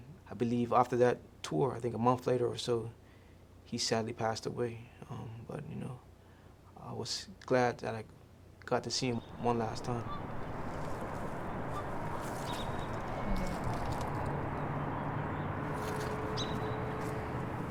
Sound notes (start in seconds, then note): 15.8 birds chirping